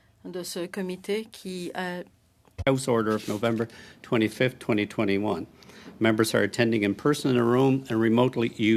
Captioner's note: speaking French